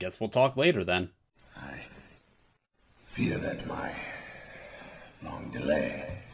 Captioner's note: sighhhhh